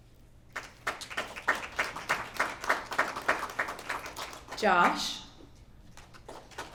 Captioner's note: applause